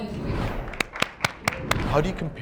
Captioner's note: people clap